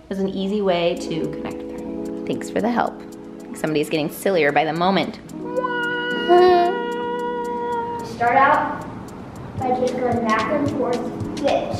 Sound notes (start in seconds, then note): 5.5 vocalizes; 6.1 laughs